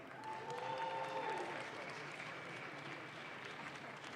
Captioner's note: audience claps